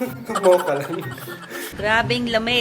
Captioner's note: laughs